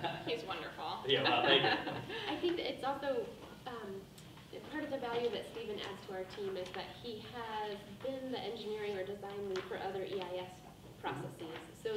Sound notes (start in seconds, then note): 0.0 laughing; 1.2 woman laughs